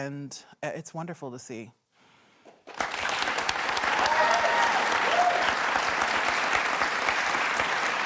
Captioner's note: applause